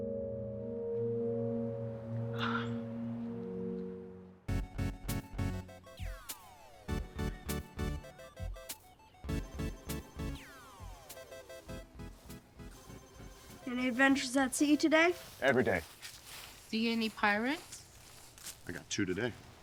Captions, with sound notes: (Colleen sighs) (gentle music) (upbeat music) (video games whirring) - Any adventures at sea today? - Every day. - See any pirates? - I got two today.